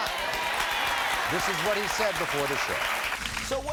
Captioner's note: audience applauding